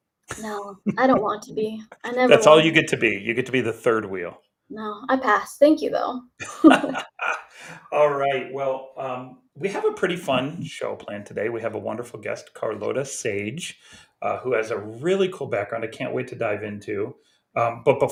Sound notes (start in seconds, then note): 6.4 laughs